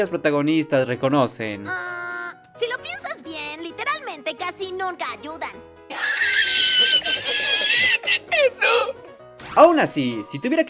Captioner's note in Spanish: Risa de viejito